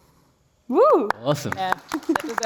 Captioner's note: applause